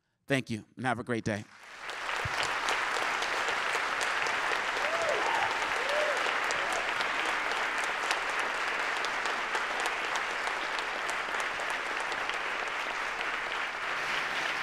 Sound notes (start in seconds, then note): 1.4 applause; 5.6 cheering; 6.8 applause